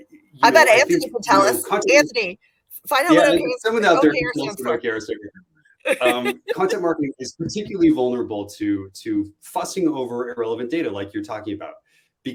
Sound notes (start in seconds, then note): 5.9 laughter